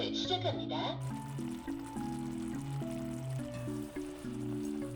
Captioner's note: boiling